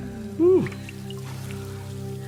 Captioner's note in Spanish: continúa la música baja y sombría; salpicaduras de agua; concursante suspirando